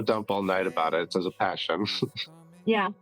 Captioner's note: laughs